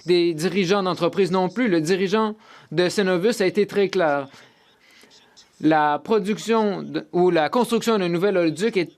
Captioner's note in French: voix de l'interprète